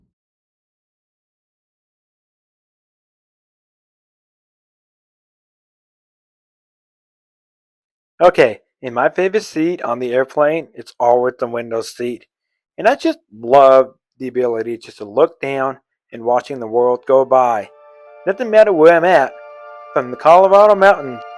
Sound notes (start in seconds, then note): 0.1 total Silence; 8.1 voiceover